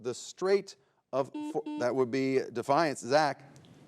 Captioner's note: buzzer beeps